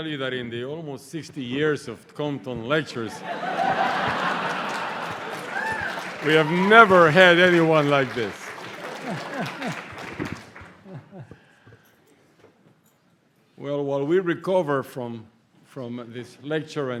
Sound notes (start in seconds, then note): 3.0 laughter; 8.5 applause